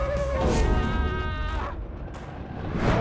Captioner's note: screaming for help!